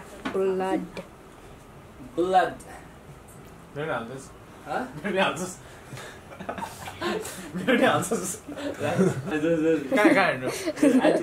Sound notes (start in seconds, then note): 3.6 in Nepali; 6.3 laughing